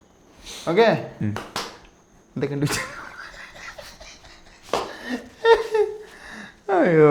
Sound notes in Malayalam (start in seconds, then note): 0.3 ചീറ്റുന്നു